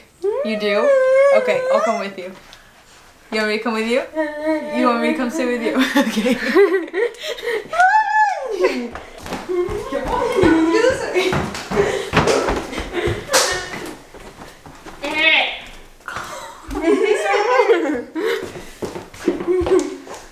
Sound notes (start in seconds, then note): 0.2 hums agreement; 4.1 hums agreement; 4.1 laughs; 7.7 yelling happily; 8.7 heavy footsteps; 9.2 laughing; 15.2 groans; 16.1 laughs; 19.3 laughing